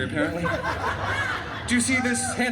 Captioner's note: guests laughing